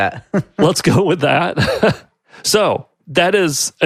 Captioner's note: chuckles